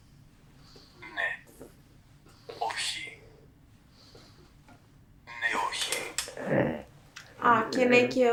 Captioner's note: achmet – artificial male voice